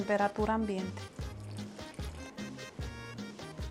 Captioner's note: pours